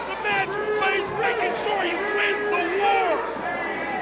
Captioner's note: crowd cheering